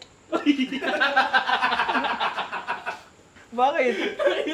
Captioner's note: laughter